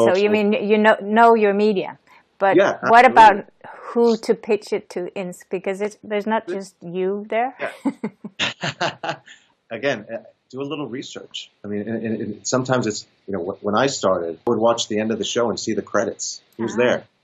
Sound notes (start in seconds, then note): 7.7 laughter